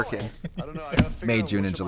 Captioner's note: Katya laughs